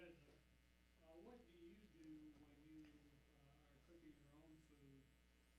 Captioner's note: voiceover